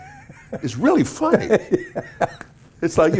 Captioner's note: laughing